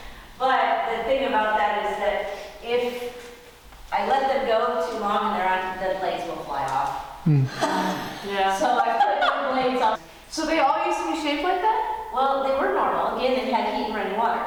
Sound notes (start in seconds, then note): 7.3 laughs in disbelief